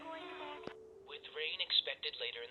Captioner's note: echoing; radio clicks